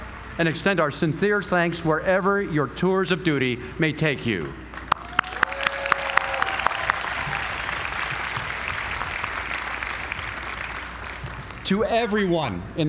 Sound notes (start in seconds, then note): 4.7 applause